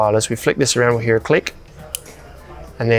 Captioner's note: dimmer clicks